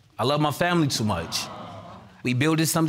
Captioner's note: audience exclaims